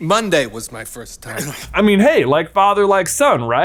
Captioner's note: Skinner grumbling